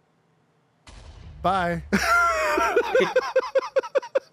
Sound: laughing

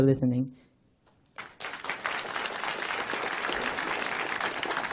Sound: applause

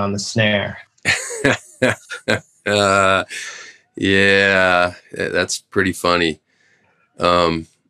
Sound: laughter

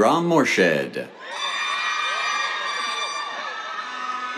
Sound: cheers, applause

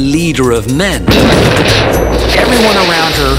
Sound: explosion booms

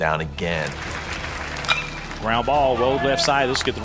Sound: bat hits ball

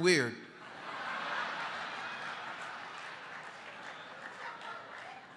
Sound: congregation laughing

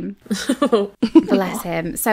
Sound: laughing

